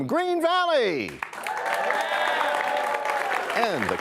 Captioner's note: cheers and applause